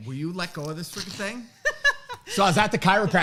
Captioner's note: laughs